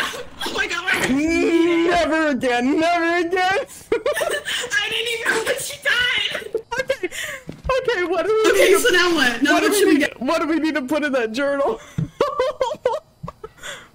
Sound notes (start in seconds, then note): 4.0 both giggle; 11.8 laughs